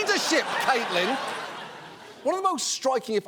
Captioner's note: audience laughing